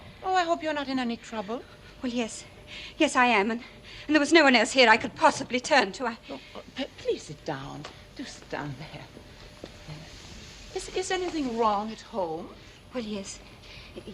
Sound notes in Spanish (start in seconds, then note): none